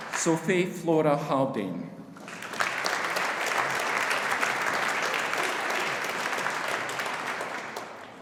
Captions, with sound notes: Sophie Flora Haldane. (AUDIENCE APPLAUDING)